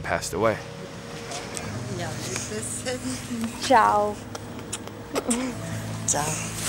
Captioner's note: grandmother speaks in foreign language